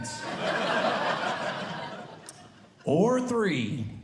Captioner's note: audience Laughing